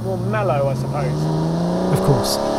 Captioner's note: car engine revving